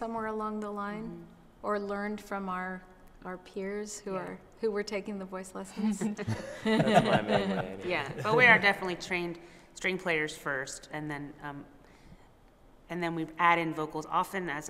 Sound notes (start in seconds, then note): 6.0 laughter